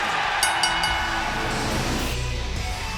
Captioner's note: bell dings; fans cheering; energetic rock music